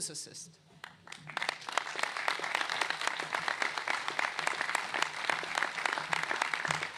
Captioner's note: applause